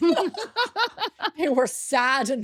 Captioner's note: laughing